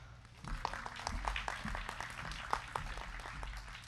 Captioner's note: crowd clapping